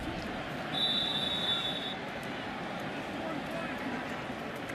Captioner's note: whistles